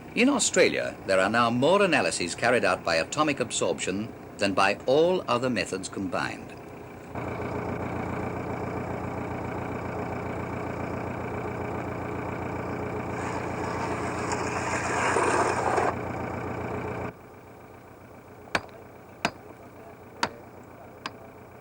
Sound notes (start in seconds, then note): 5.2 noise of a motor; 18.5 man hammering; 21.4 noise of a motor